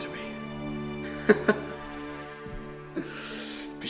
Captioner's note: laughing